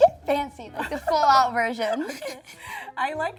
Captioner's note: laughs